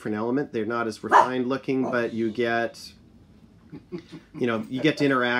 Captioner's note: dog barks